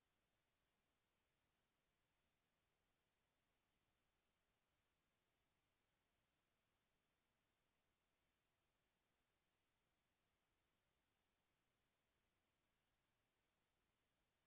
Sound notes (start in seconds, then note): none